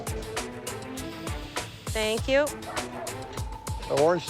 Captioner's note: paint spraying